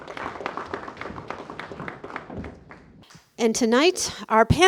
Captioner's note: applause